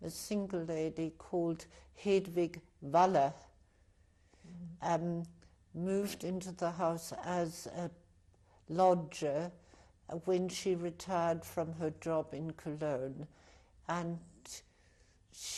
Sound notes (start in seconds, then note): 4.4 pauses for 3 seconds